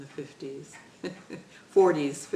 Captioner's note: laughter